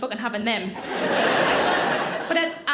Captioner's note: audience laughing